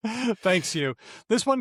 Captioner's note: laughter